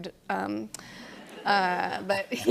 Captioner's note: laughter